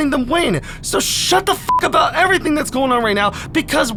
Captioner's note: beep